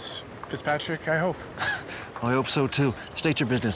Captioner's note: laughs